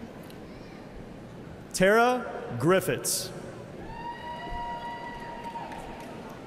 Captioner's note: cheers and applause